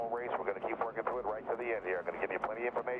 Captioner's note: radio